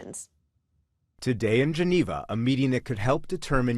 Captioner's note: voice-over